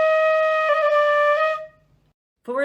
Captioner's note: horn